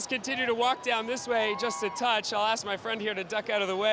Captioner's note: cheers